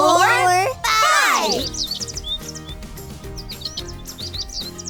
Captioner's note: tweeting